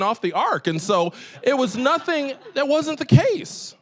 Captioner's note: audience laughing